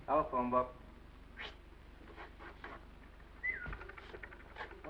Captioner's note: whistles